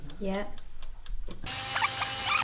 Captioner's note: whining